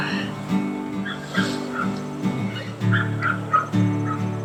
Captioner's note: groaning